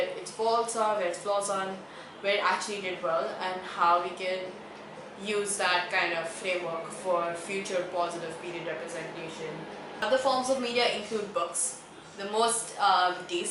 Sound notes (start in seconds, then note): 8.3 deep breath